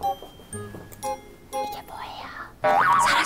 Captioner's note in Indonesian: Berbisik